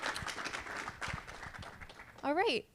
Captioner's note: audience applauding